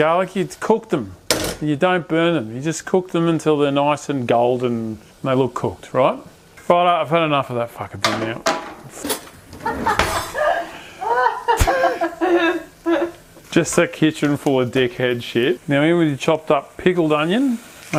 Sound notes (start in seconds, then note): 9.6 laughing